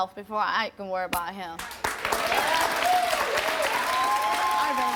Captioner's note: audience applauds